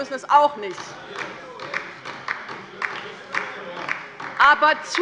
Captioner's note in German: Beifall bei der LINKEN - Zurufe von der CDU